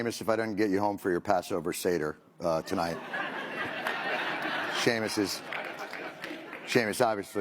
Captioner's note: laughter